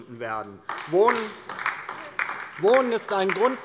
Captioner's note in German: Beifall DIE LINKE